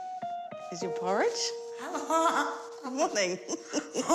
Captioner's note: laughs